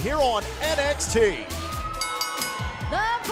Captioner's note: bell ringing